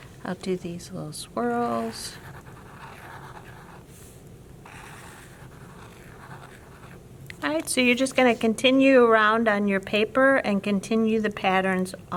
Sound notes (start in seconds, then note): 2.3 marker scratching